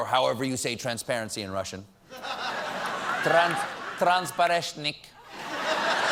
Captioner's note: russian accent; laughter